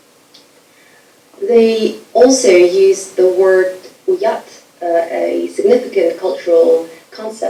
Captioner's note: speaking foreign language